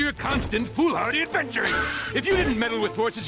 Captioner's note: none